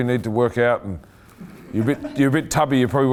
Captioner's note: laughing